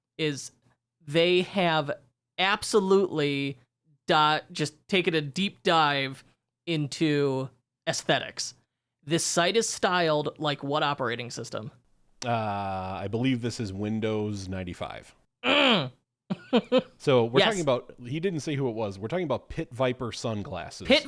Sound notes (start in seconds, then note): 15.4 groans; 16.3 chuckles